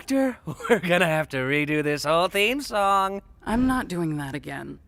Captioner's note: chuckles